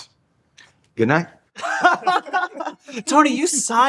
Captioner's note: all laughing